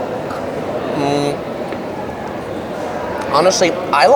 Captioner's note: eating